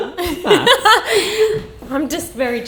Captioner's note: laughing